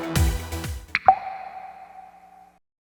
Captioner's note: upbeat music; logo pops